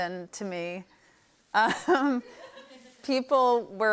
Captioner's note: laughs